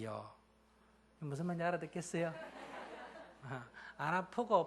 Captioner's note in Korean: 청중 웃음